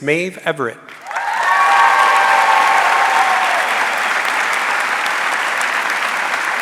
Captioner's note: audience cheering and applauding